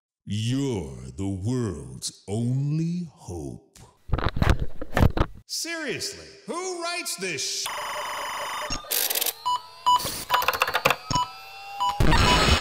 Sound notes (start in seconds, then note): 4.0 pushing microphone away; 7.7 many computer bleeps and bloops; 10.3 typing on a really sweet mechanical keyboard